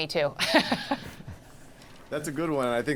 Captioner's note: laughter